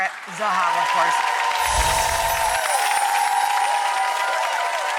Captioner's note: audience cheering